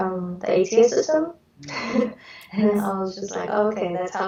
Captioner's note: chuckles